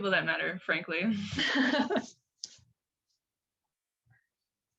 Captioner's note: laughing